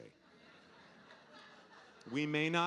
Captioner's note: audience laughing